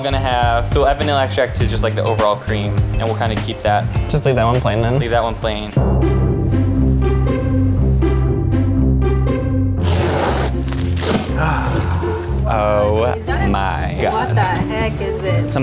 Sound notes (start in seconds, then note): 6.8 goofy classical music; 9.8 tape tears loudly